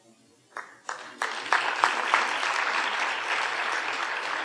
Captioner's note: audience applauding